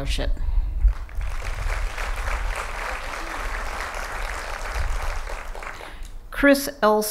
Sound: applause

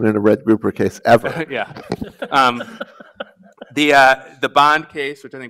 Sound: panelists chuckle

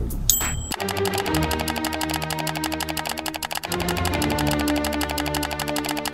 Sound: ding; mouse button clicking

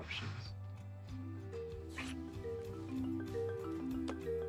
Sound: phone ringing

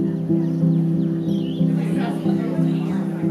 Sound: birds chirping; cheerful piano music

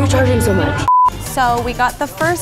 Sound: beeps

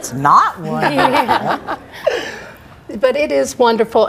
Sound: guests laugh

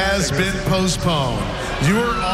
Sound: crowd booing

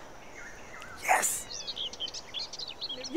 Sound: whispers

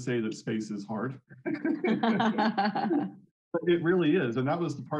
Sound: both laughing

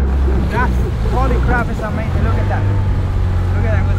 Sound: murmurs

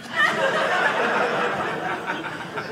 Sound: audience laughing

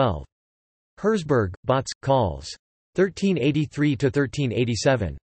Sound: in German

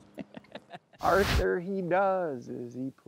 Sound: laughter

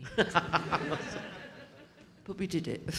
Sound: audience laughing

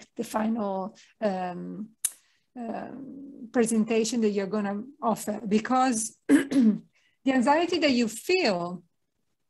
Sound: clearsthroat

